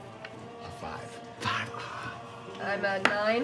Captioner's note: groans